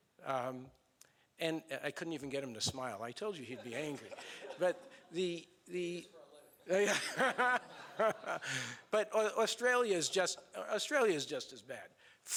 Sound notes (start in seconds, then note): 3.5 laughing; 4.8 man speaks off mic; 6.7 laughing